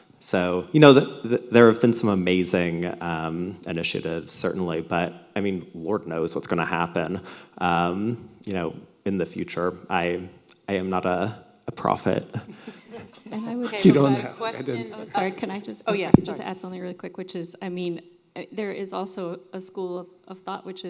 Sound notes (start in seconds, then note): 12.1 laughs; 12.3 audience laughing